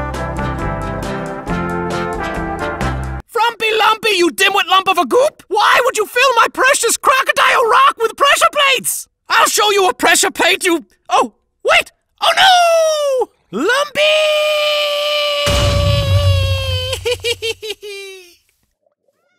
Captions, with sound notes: (cheerful big band music) - Frumpy Lumpy, you dimwit lump of a goop! Why would you fill my precious Crocodile Rock with pressure plates? I'll show you a pressure plate you... Oh, wait, oh no! Lumpy! (loud explosion)